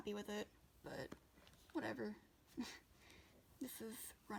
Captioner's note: laughs